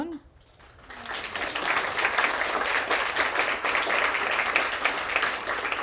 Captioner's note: audience applause